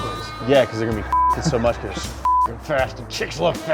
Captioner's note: beep